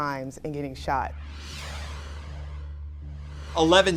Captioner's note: screen whooshing